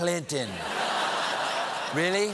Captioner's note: laughter